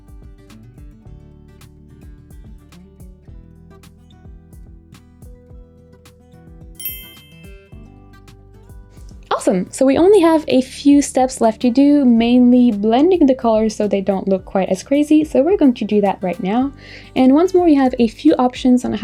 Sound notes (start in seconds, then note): 0.2 soft music; 6.8 bell dings